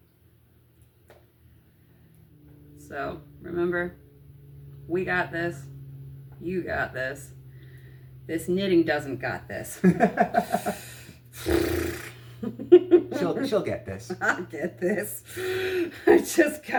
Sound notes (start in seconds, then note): 10.6 razzberries